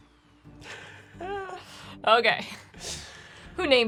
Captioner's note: laughing